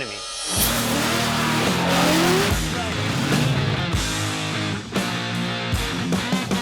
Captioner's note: rock music; engines revving